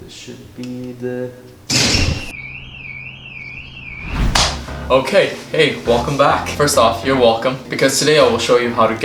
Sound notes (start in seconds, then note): 2.2 alarm ringing